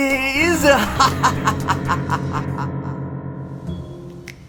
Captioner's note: laughs; suspenseful music